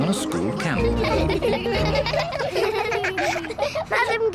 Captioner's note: all giggle